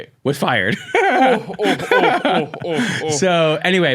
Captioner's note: laughing